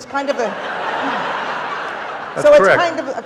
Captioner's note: audience laughing